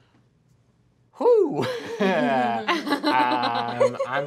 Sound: laughing

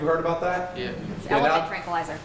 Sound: audience agreeing

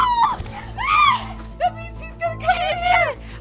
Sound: cries out

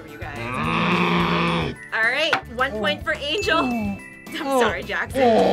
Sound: groans angrily

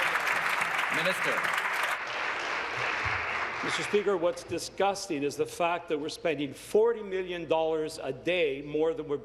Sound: applause

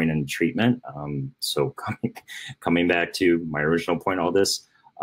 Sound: laughing

